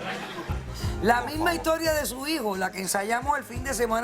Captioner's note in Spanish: Algunas risas y comentarios